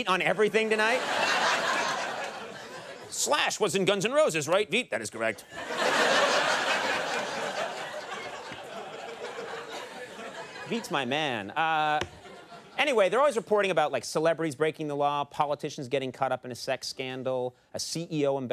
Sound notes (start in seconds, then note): 5.4 laughter